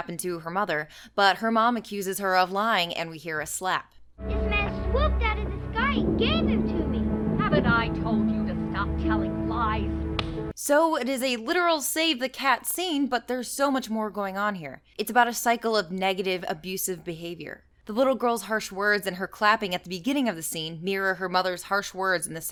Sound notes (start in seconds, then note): 10.1 slap